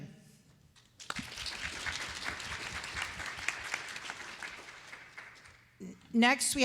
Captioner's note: applause